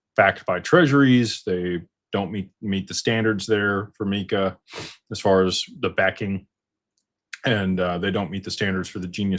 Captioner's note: snorts